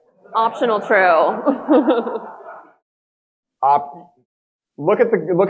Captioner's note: audience laughing